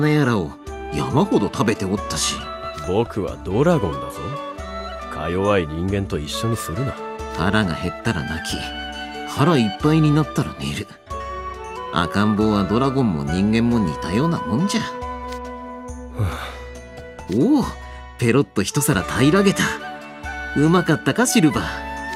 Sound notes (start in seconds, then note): 16.1 sigh